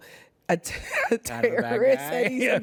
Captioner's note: laughing